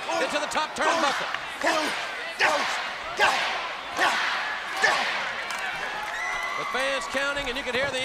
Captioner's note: crowd chanting